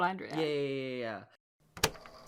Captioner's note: tape recorder clicking on